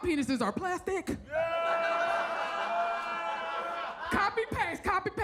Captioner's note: audience laughs